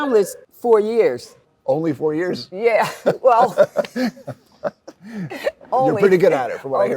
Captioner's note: laughs